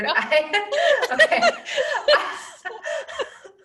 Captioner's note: laughing